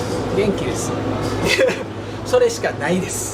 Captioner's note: laughs